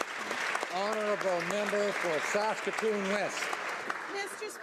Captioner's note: applause